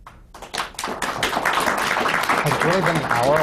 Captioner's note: applause